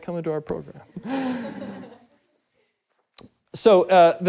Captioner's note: audience laughing